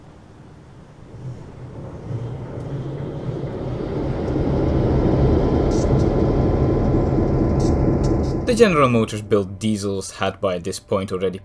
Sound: diesel engine start up sound

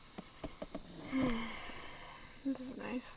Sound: sighs

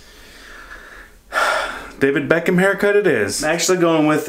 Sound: sighs

